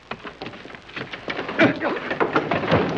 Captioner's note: man groans